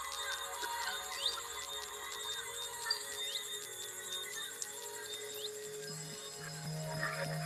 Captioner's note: discordant music playing; birds singing; gentle bells ringing